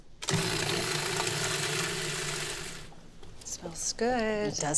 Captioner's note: processor whirring